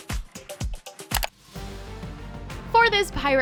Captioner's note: clicking